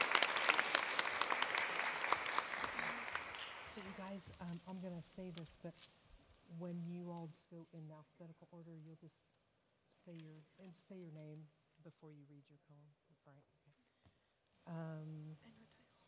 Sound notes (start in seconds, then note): 3.9 applause